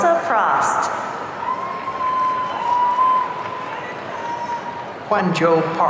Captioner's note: audience cheering